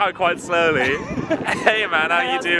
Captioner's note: laughs